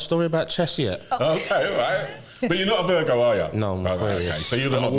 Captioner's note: laughter